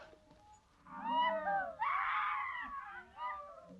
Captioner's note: men yelling